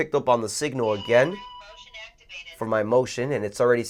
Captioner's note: motion speaking